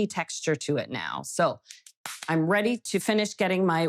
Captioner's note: hands clapping